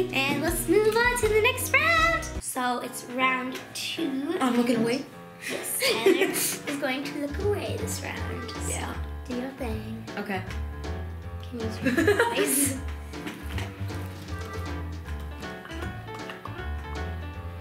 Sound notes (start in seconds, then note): 11.8 laughing; 13.2 playful piano music